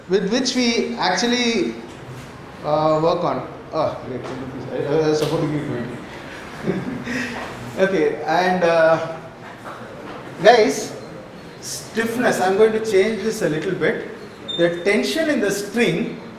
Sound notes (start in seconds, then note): 6.3 laughter